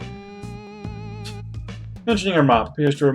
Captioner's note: scoffs